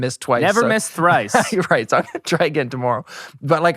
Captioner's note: laughs